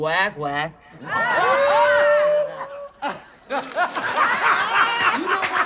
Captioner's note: audience laughs